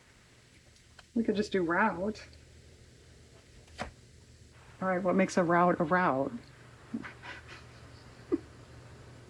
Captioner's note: laughs